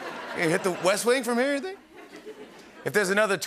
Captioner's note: laughter